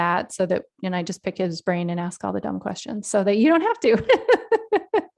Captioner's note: laughs